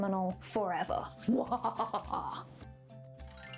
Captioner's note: evil laugh